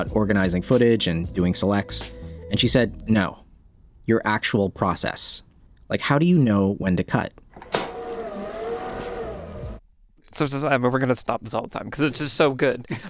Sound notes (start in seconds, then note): 7.5 tape whirring